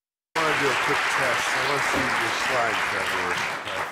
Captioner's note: applause